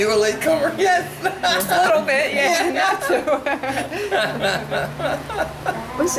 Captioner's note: laughs